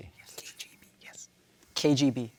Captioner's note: whispers